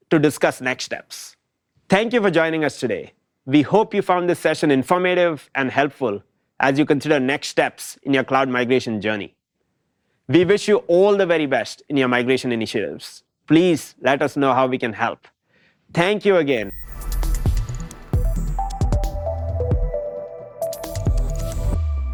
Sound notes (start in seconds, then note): 16.7 air whooshes; 18.4 bright electronic music